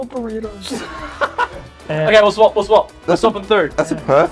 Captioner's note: laughs